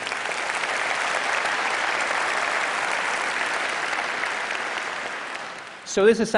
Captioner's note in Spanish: Aplausos